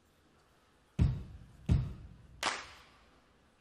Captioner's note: clap